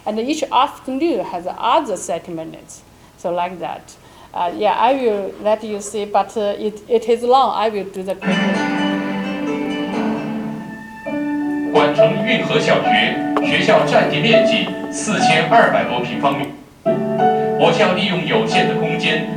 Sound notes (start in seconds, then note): 8.2 oriental orchestral music; 12.5 speaking in foreign language